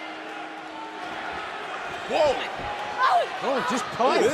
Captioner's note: bell ringing